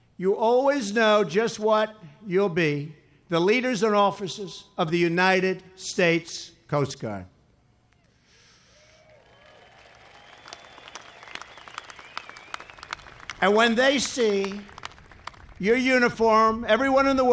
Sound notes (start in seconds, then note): 8.8 applause